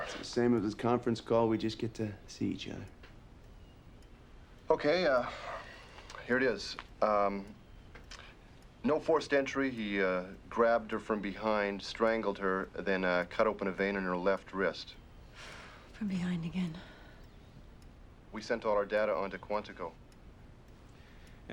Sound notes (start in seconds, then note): 15.5 sighs